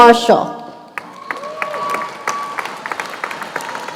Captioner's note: cheers and applause